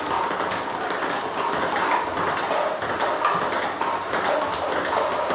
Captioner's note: ball ping pong hitting continues